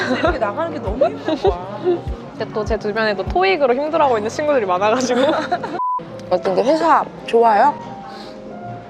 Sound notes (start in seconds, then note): 5.8 beep